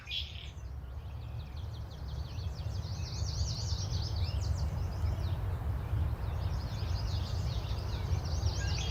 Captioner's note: birds chirping